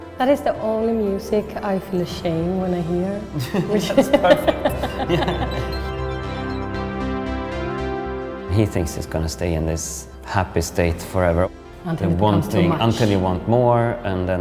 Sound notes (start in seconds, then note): 3.4 both laugh